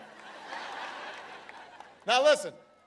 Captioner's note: laughter